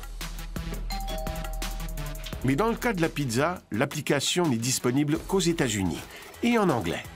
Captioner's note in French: sonnette